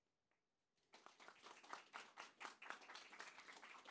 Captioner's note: applause